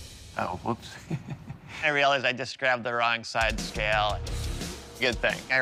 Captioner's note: laughs